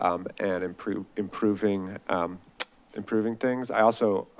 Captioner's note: smacks lips